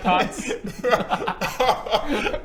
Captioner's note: shameless laugh